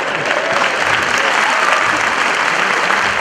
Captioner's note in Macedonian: аплауз